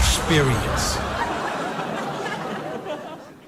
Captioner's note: laughing